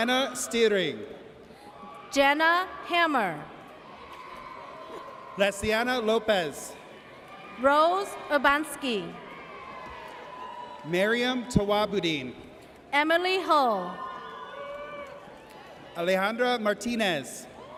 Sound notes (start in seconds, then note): 3.9 audience cheers